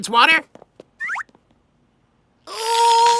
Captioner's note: grunts of effort